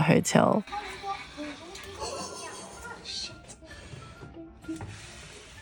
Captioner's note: giggles